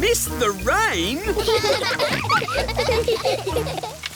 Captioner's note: all laughing